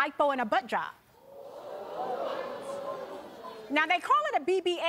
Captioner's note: audience gasping